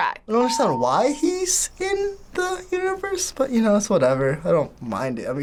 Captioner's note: none